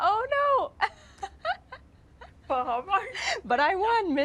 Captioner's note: laughs